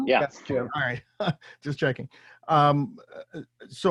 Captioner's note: chuckles